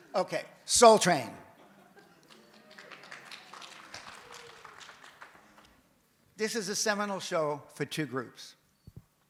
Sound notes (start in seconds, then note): 2.2 audience applauds